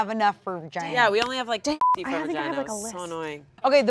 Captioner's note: beeps